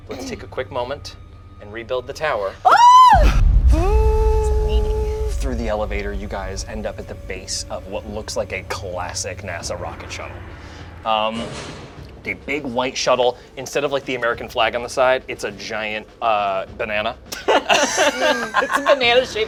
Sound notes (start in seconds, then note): 4.3 lift whirs; 17.3 group laughs